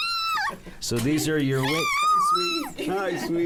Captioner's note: squealing